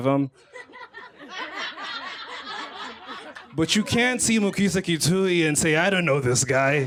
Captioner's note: laughter